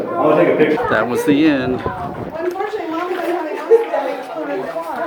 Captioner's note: chatter of the group